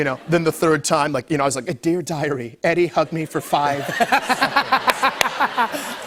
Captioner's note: laughter